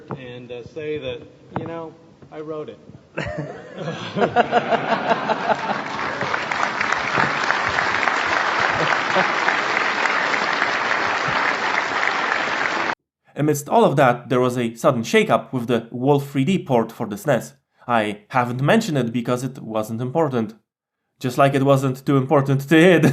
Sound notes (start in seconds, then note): 3.2 laughter and applause; 22.6 laughs